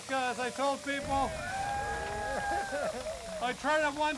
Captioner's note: audience applauding; audience cheering